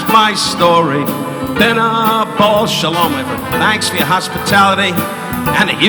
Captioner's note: speaking in a foreign language